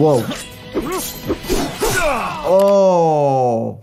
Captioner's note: blades clashing